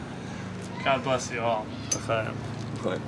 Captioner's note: speaks in foreign language